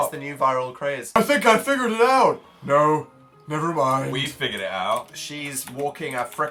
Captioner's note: continues singing; low voice